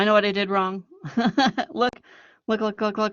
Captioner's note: laughing